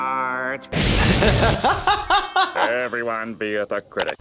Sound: doctor laughs

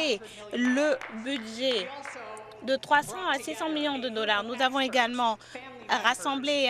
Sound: some Applause

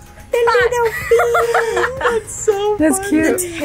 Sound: laughs; group laughs

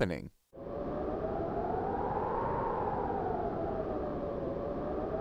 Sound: wind gusting

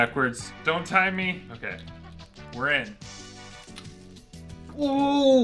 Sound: lock clicking

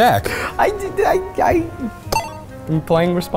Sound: stammering

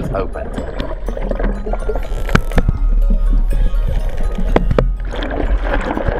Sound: water gurgles; upbeat theme music

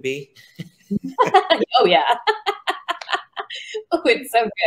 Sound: laughs

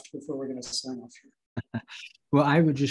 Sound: laughter

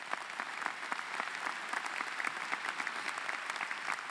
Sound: applause

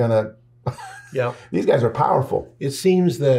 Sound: laughs

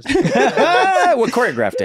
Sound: everyone laughs

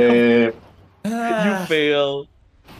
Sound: in indonesian; sighs

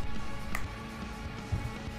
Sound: finger snap

